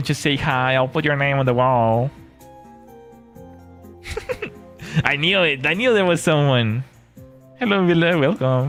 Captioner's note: laughter